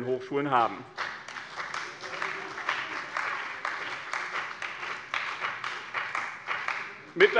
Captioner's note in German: Beifall bei der CDU und dem BÜNDNIS 90/DIE GRÜNEN